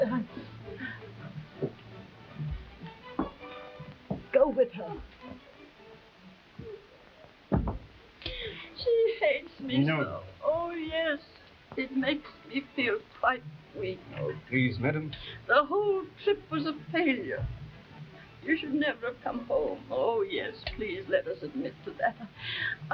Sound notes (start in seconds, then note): 0.5 fast-paced orchestral music; 5.5 Marquesa sighs; 21.5 chuckles